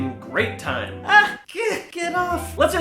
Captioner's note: even more sounds of pain